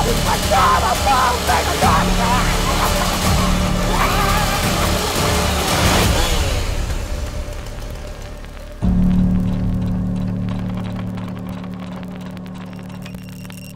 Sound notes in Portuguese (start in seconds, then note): 0.1 gritos histéricos; 5.5 motosserra ligada; 8.7 música de suspense